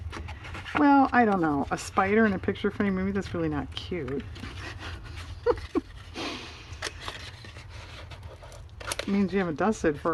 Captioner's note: laughs